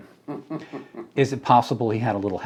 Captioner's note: interviewer chuckling